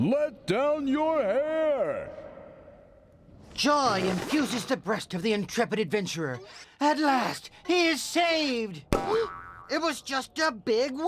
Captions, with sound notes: JOY INFUSES THE BREAST OF THE INTREPID ADVENTURER. AT LAST HE IS SAVED! ( gasps ) IT WAS JUST A BIG WIG!